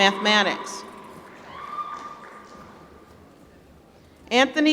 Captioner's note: applause